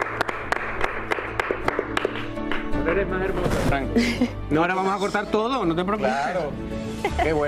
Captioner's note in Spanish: aplausos